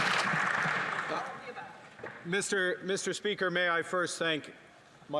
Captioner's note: some Applause